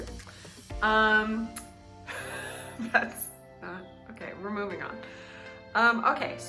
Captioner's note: laughing